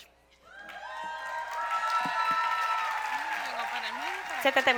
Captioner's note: applause